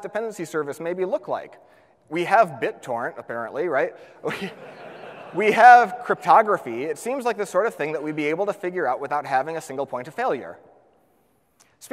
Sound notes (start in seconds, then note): 4.3 laughs; 4.3 audience laughs